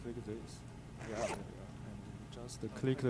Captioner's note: bag zipping